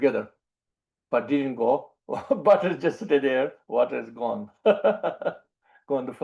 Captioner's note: laughs